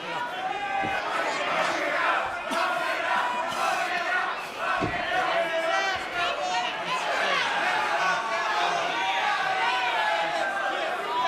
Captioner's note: crowd chatter